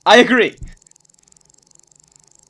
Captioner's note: ticking